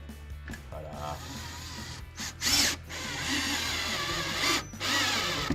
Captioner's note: drilling sound